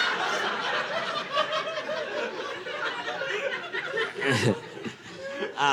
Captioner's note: audience laughing